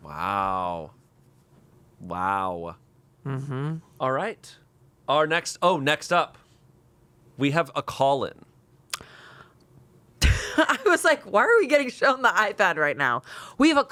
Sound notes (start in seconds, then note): 10.2 laughs